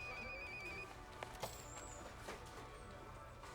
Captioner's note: phone rings